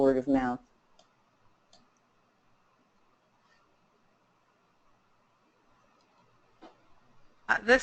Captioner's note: silence